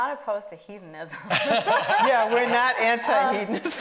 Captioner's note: laughing